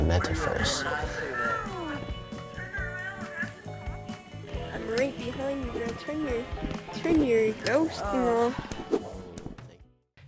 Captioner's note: gameplay Sound